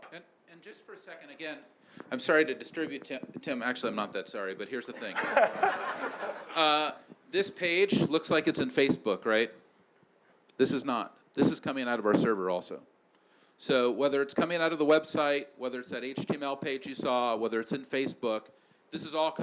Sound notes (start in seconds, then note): 4.9 laughter